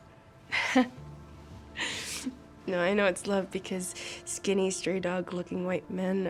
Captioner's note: laughs